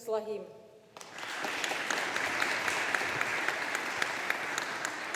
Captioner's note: audience applauding